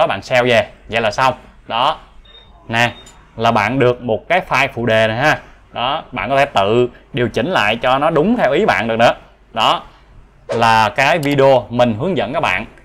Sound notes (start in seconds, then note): 2.2 bell sound